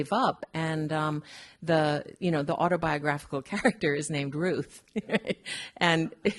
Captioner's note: laughing